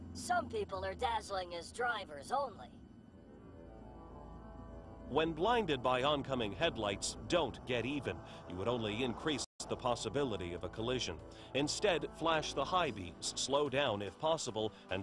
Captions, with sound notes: - Some people are dazzling as drivers only. - [Voiceover] When blinded by oncoming headlights, don't get even. You would only increase the possibility of a collision. Instead, flash the high beams, slow down if possible,